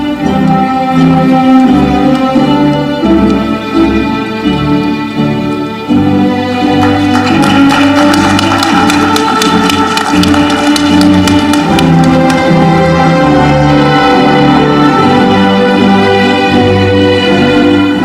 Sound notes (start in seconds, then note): 1.0 ceremonial music continues; 6.5 audience clapping; 11.2 ceremonial music continues